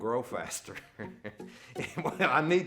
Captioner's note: laughs